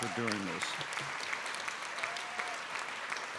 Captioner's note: applause